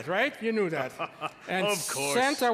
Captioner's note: laugh jovially